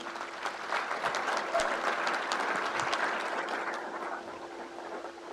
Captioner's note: crowd applauds